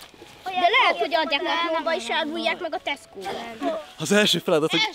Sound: chatter

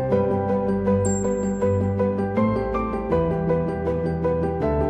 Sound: phone dings

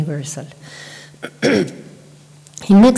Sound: clears her throat

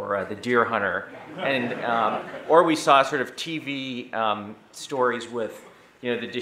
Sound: audience laughing

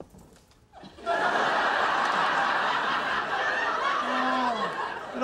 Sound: audience laughter

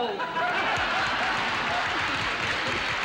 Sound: audience laughing and applauding

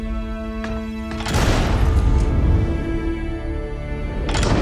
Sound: gun firing

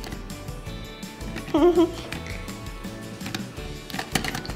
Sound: upbeat quirky music; laughter; markers shuffling

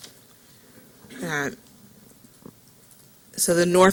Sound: silence

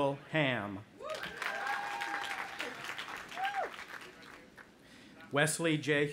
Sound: audience applauding

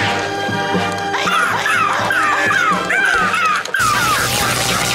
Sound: screeching

